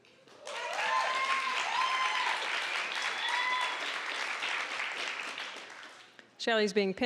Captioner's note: applause, cheering